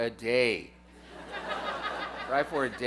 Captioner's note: laughter